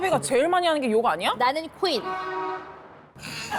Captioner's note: A bus passing by makes an angry sound